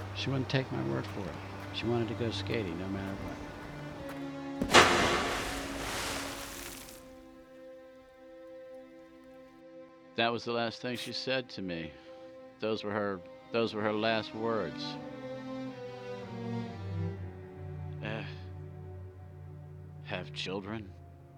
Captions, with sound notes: She wouldn't take my word for it. She wanted to go skating no matter what. (cracking) (water splattering) That was the last thing she said to me. Those were her, those were her last words. Eh, have children,